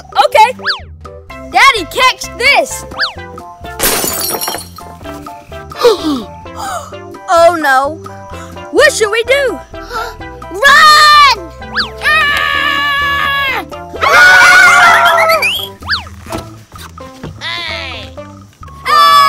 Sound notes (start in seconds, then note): 3.8 glass breaking; 6.5 gasping; 12.3 screaming